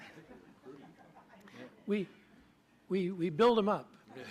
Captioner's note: laughter